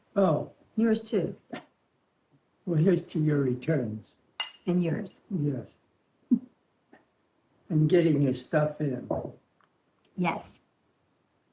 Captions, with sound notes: -Oh. -Yours too. -Well, here's to your returns. -And yours. -Yes. -[ Chuckles ] -And getting your stuff in. -Yes.